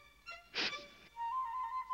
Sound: sniffles

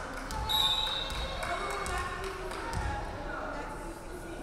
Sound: referee whistling

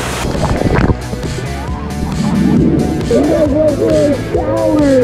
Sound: water sound effects

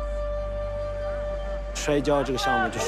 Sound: whistle blows

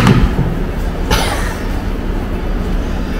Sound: laughs

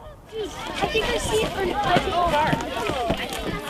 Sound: children talking

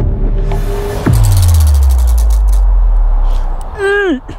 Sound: wheel of fate spins

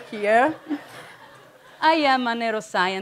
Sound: audience chuckling

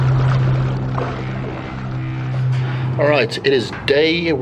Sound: water splashing

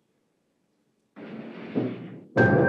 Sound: door closing soundi

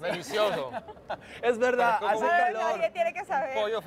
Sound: Risas

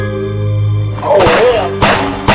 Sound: sinister music; gunshots

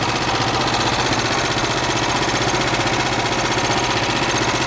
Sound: engine running

